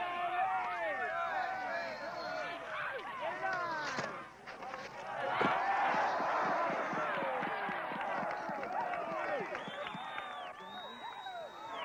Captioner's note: cheering